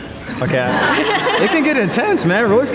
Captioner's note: group laughs